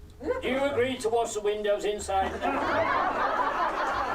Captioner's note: laughter